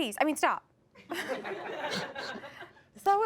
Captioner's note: audience laughs